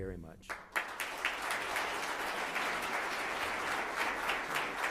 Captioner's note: audience applauds